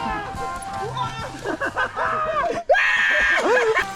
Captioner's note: laughs